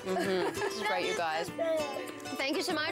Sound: chuckling

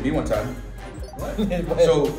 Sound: laugh

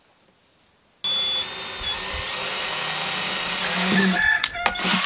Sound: whirring drill

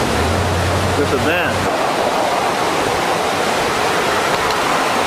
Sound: water rushing loudly

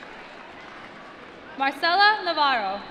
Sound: applause

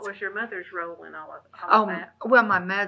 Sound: laughs

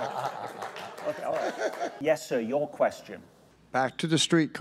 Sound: laughter

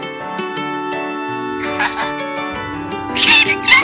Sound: laughs

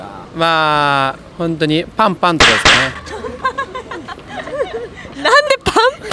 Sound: slap slap

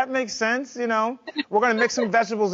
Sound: mom laughing

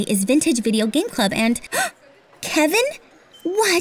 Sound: gasps

